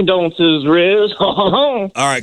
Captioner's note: laughs